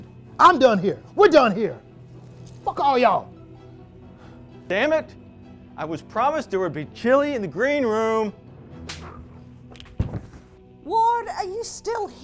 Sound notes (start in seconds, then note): 3.6 music intensifies; 8.8 slap sound